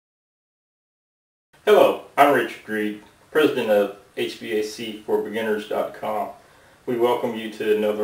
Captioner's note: hvac